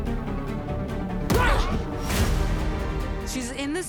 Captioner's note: Brigand yells; Kara grunts